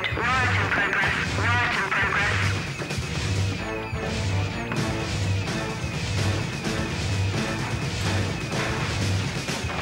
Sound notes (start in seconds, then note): 3.0 alarm bleeping; 3.0 rapid tense music